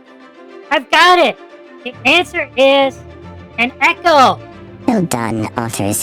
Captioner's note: excitedly; impressed